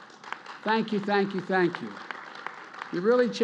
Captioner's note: applause